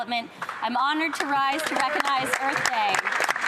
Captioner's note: some Applause